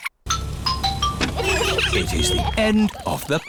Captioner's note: trumpets; horns honking